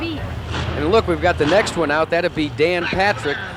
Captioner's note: engine noises